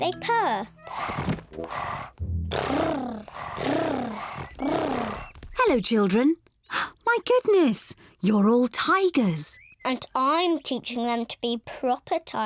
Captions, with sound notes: -(PURRING) -(ALL PURRING) Hello, children. (GASPS) My goodness! You're all tigers! And I'm teaching them to be proper tigers.